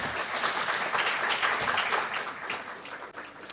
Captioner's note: applause